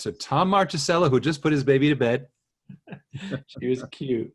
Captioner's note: chuckles